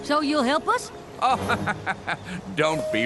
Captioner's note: laughs